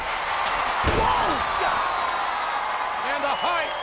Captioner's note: audience cheers